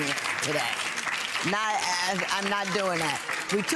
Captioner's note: audience applauding